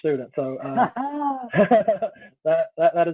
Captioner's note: laughing